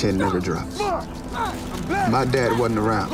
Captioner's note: both chanting